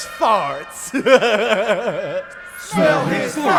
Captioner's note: laugh